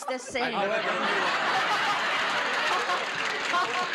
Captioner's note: laughs